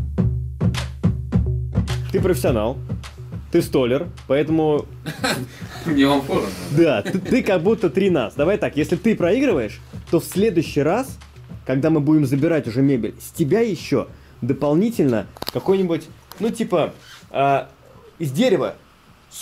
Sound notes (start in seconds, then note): 5.0 laughing